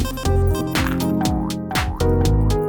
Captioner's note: upeat music; beeping; upeat music